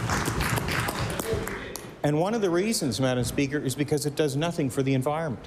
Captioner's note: applause